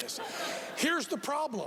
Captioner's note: laughing